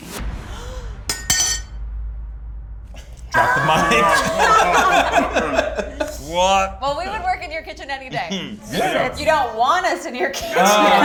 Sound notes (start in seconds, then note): 0.5 gasps; 3.3 screaming; 3.4 laughter